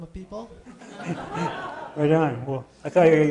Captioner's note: audience laughing